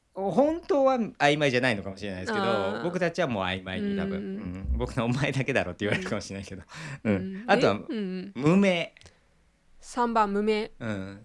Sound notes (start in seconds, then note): 5.9 laughs